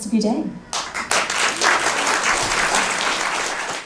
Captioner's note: audience applauds